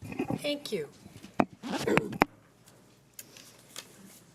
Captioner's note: coughing